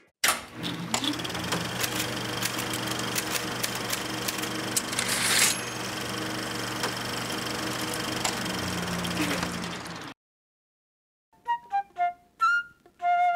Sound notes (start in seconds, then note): 0.6 projector clicking; 1.7 typing; 4.8 typewriter ding; 8.1 projector dies